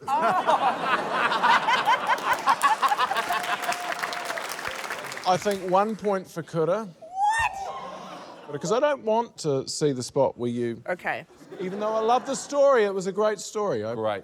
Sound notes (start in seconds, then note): 0.0 laughter; 1.3 applause; 7.1 audience exclaims in shock